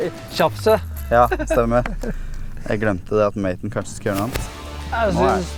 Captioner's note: giggles